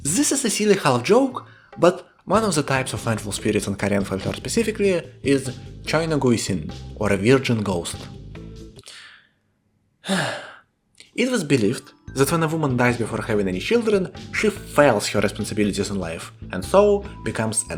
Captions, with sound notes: This is silly and halfjoke, but. One of the types of Vengeful Spirits in korean folklore specifically is 처녀귀신, or a Virgin Ghost. *deep sigh* It was believed that when a woman dies before having any children, she fails her responsibilities in life and so becomes